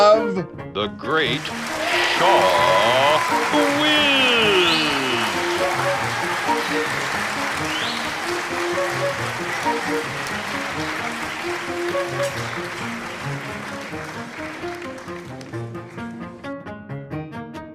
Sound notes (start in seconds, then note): 4.6 applauding; 4.6 upbeat music